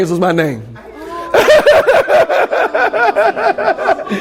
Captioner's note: laughter